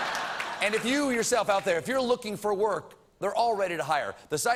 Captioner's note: laughter